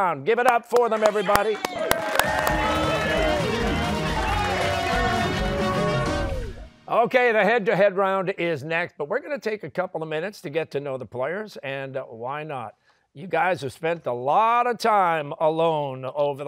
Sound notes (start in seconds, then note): 0.7 cheers and applause